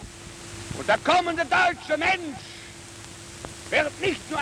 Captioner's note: goebbels speaking german